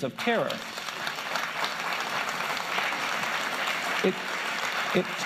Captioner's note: applause